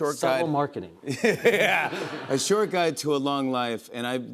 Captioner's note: laughs